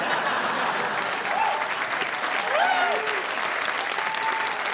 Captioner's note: audience applauding